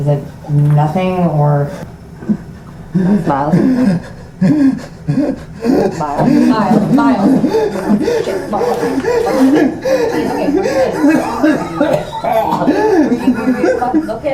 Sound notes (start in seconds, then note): 2.5 Miles wheezes; 9.4 Miles wheezes; 12.3 Miles coughs